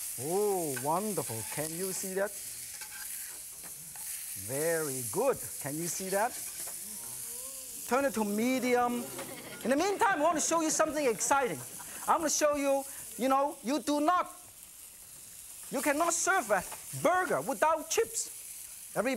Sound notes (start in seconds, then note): 4.2 loud sizzling